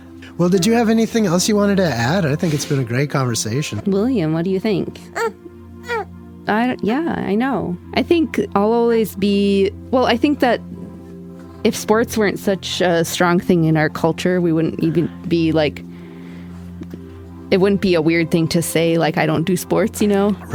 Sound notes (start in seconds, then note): 5.8 baby coos